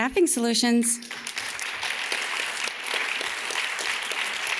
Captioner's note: audience claps